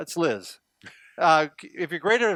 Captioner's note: laughing